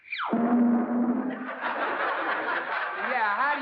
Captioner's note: laughter